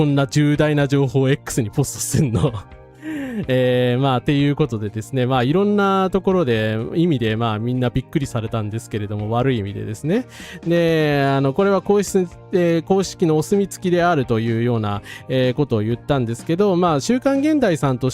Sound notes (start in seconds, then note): 2.2 laughs